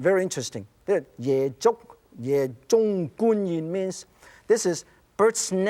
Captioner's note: speaking Chinese